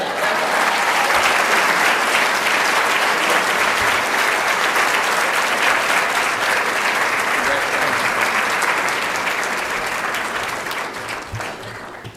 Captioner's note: applause